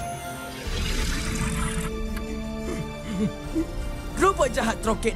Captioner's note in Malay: Troket mendengus